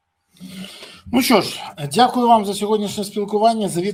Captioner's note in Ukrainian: сопіння